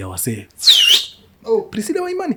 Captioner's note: whistles